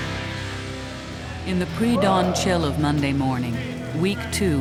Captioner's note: voiceover